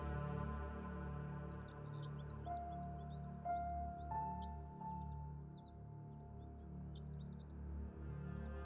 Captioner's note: birds chirping